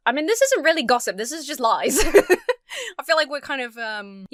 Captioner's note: laughs